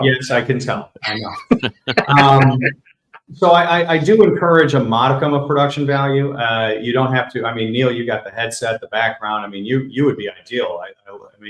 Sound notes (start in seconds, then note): 0.8 laughs